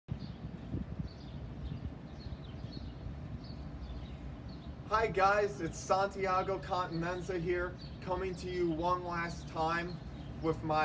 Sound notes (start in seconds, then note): 2.0 the wind, birds, and traffic making background noises